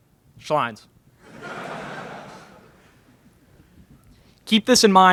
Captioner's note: laughter in crowd